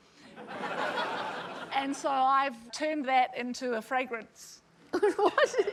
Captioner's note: laughter